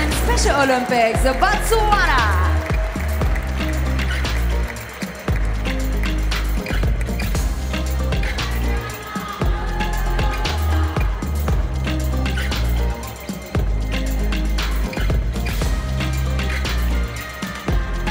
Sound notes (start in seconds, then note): 4.7 applause; 4.7 ♫ Midtempo guitar music ♫